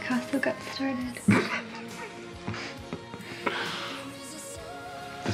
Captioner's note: both laughing